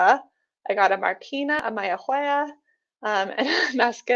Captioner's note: chuckles